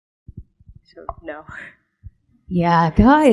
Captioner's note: laughs